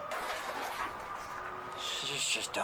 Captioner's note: siren